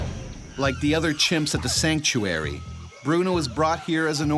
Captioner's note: voiceover